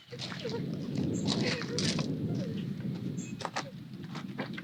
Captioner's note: crying